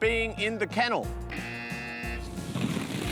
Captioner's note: buzzer